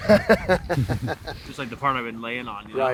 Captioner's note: laughing